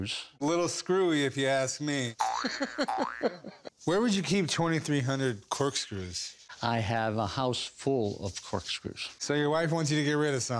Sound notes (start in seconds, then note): 2.4 laughing